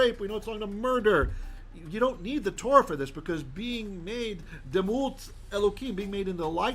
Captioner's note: Hebrew